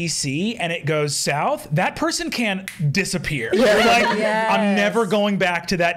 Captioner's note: snaps fingers